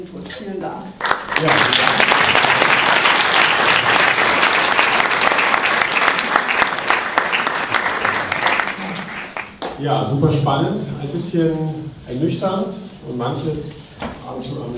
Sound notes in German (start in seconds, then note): 0.9 Applaus